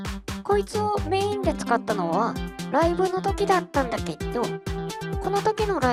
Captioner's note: japanese only